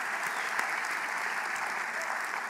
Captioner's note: applause